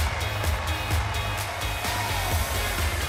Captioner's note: crowd cheering